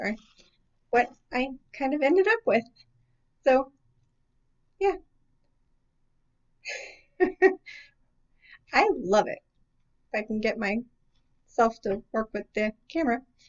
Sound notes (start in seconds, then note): 6.7 giggle